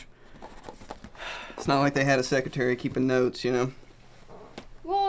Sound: sigh

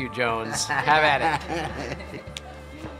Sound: laughs

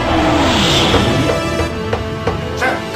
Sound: knocking on door

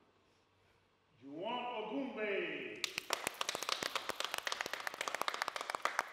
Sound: applause

